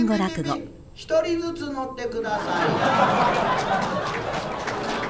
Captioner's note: audience laughter